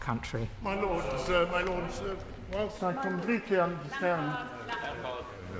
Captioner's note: chatter from the crowd